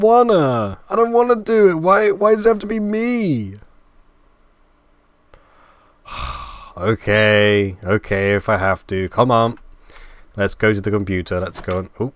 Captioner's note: sigh